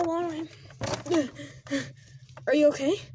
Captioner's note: Margaret, in her late 50s, gasps for air